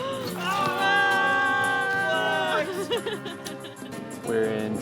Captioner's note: students cheering; laughing